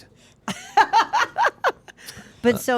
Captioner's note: group laughing